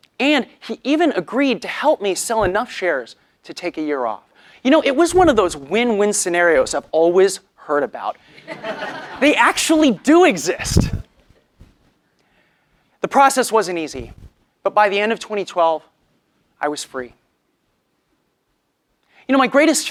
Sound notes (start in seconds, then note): 8.4 laugh